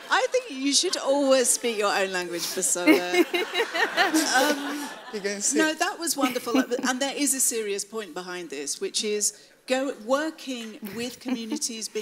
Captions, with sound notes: - I think you should always speak your own language, Bisola. (audience laughs) No that was wonderful and there is a serious point behind this which is working with communities,